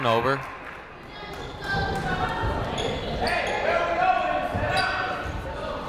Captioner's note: people shouting in the crowd